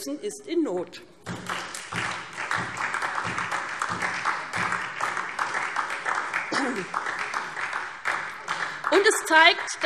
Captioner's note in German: Beifall SPD